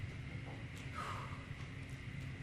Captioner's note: exhale